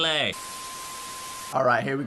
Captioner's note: TV static hissing